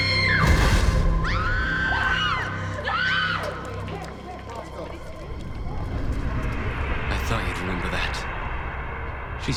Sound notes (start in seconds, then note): 1.2 woman screaming; 1.6 screaming